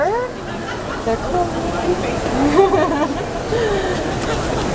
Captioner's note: laughs